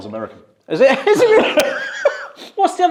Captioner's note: laughs